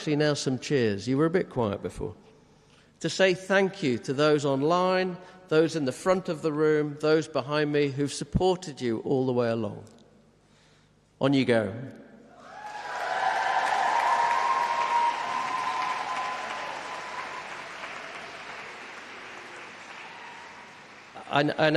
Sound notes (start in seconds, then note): 15.2 applause